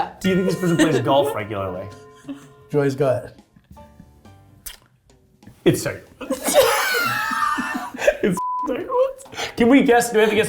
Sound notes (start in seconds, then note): 6.2 laughing; 8.4 beep